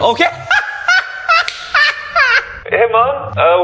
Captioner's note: almost dies of laughter